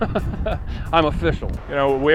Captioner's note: laughs